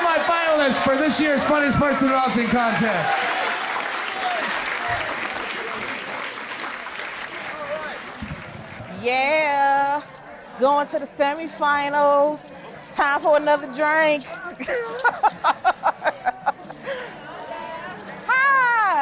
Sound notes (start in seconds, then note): 4.4 applause; 14.6 laughs